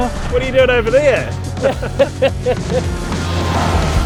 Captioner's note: laughs